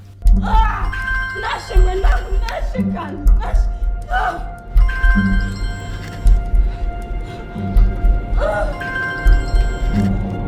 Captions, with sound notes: [screams] Nashe my child, Nashe… Oh! [Phone rings] [phone rings] [phone rings]